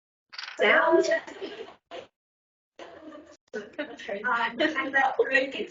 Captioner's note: everyone laughing